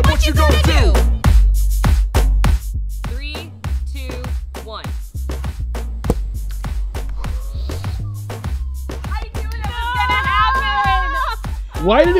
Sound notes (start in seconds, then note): 6.0 bowl dropping